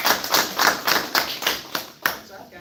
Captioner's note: applause